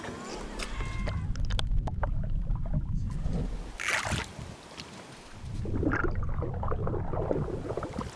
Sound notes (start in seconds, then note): 2.9 water sloshes